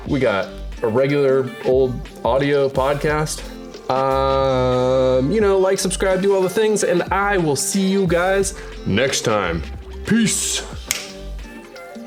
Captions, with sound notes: we got a regular old audio podcast, like, subscribe, do all the things and I will see you guys next time. Peace (snaps fingers).